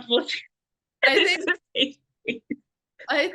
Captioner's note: laughs